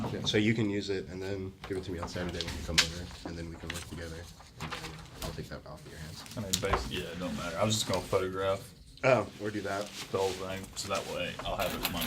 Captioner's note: students murmur